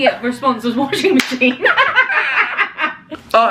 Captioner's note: hands slapping; laughing